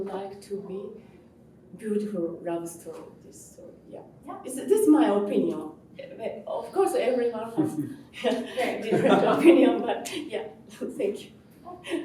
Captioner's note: speaking in Japanese